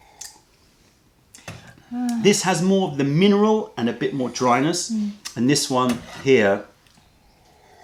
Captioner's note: sips tea